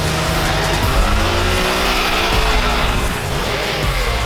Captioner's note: engine revs